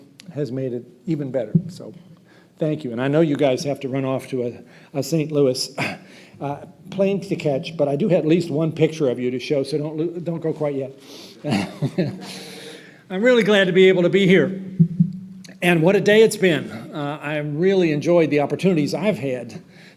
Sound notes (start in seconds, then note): 11.2 audience laughs; 11.4 Francis chuckles